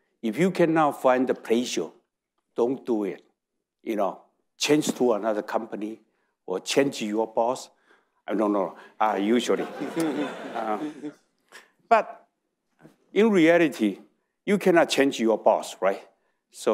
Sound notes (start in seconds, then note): 9.4 audience laughing